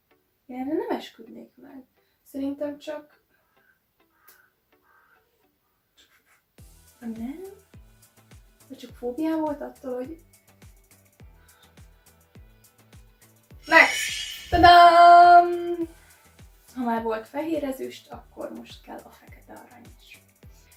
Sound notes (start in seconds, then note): 4.7 caw